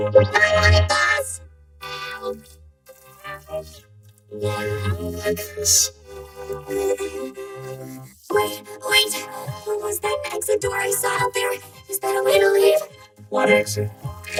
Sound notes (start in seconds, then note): 2.9 slurping